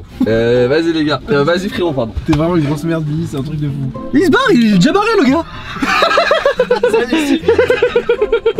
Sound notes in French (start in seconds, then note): 5.6 rires